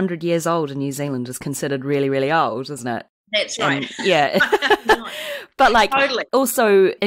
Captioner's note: laughs